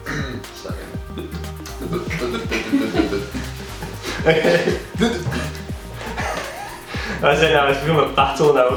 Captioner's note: stutters - clears throat; stuttering sounds; laughter